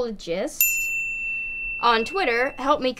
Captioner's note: single chime